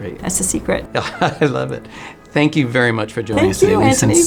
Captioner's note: laughs